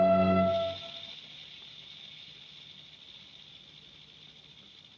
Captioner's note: sonajeros de serpientes